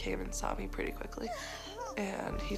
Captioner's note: groaning